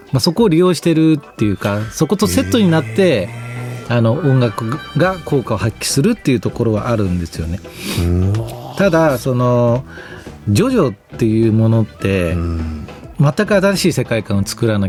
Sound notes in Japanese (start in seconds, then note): 8.3 鼻息